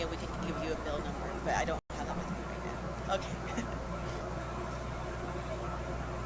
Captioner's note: chuckles